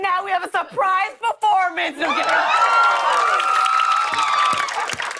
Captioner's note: cheers and applause